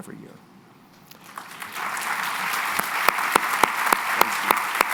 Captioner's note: applause